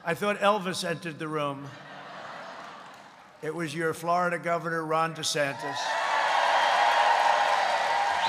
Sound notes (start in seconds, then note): 1.7 laughter; 7.3 applause